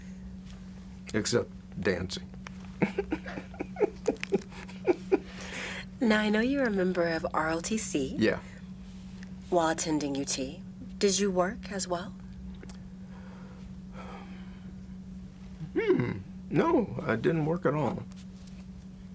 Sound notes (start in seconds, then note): 2.8 laughs